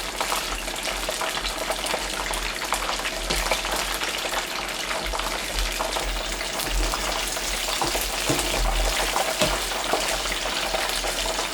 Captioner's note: oil bubbling and frying